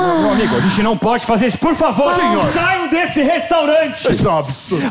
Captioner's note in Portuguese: grita